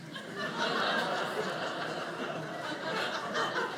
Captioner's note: audience laughing